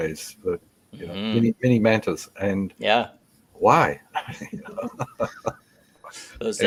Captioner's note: laughs